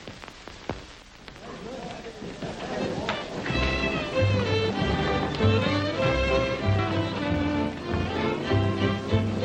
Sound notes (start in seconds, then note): 1.4 crowd chattering; 1.6 light upbeat music